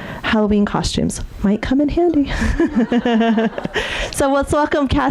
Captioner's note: laughs